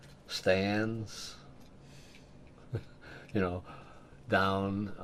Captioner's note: laughs